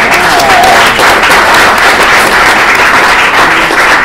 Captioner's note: applause